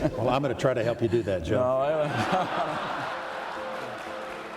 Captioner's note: laughter